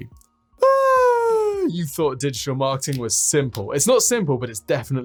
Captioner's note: squealing